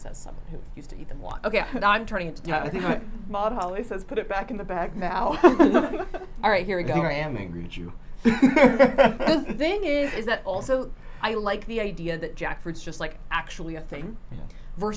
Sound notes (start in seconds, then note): 8.2 laughs